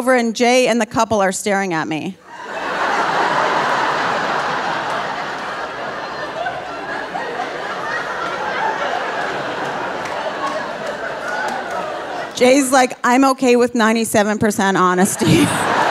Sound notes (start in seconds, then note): 2.4 audience laughing; 14.9 audience laughing